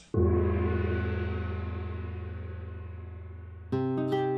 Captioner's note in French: gong!